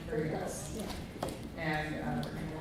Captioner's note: faintly speaking